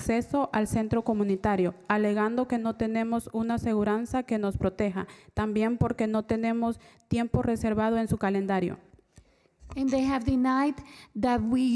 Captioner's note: spanish